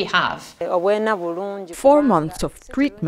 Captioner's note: speaking in foreign language